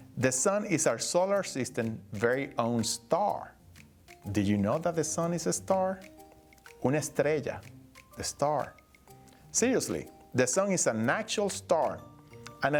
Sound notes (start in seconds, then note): 6.9 speaking Spanish